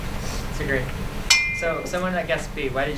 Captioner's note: bell gong